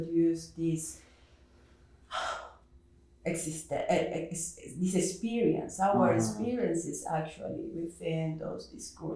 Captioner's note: sighs